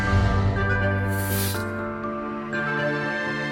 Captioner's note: bright music continues; book binding ripping; bright music continues